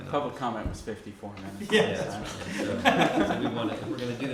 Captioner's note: laughter